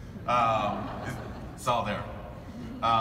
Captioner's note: audience laughing